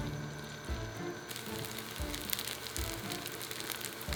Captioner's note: sizzling